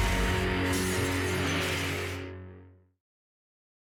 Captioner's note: crashing, revving